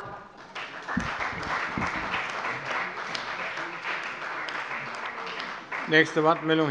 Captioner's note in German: Beifall bei der CDU und dem BÜNDNIS 90/DIE GRÜNEN